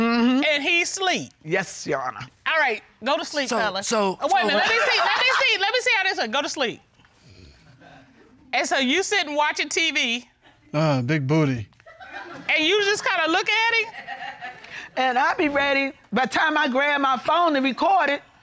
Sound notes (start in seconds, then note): 7.2 imitates snoring; 11.9 audience chuckle